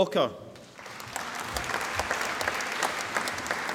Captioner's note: applause